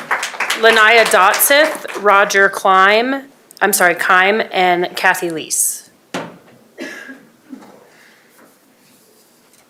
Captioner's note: applause